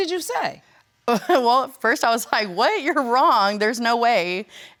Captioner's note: chuckling